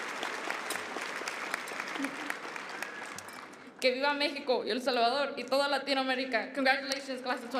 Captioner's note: applause